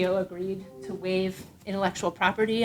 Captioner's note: device pinging